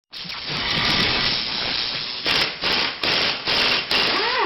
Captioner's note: drill engine roaring